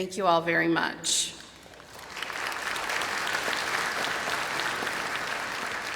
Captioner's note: applause